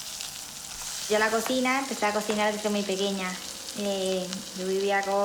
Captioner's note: speaking foreign language